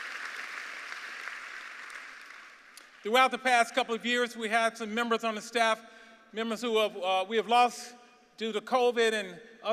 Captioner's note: applause